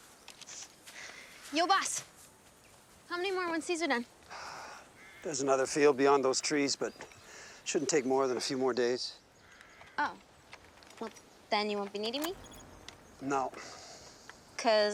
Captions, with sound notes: Yo, boss. How many more once these are done? (sighs) There's another field beyond those trees, but it shouldn't take more than a few more days. Oh. Well, then you won't be needing me? - (device beeps) - No.